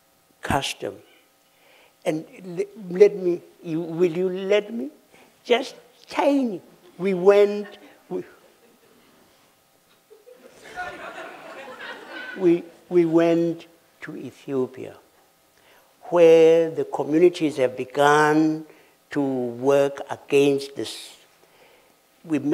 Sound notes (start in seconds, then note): 6.4 laughter